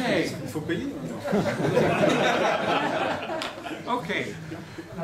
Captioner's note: laughter